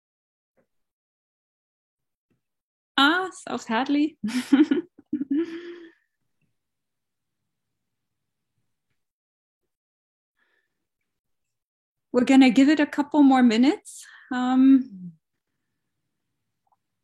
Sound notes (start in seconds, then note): 4.3 laughs